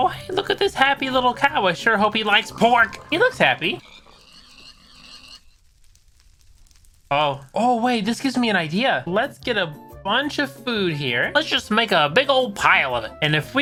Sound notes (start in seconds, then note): 3.9 sounds of many pigs dying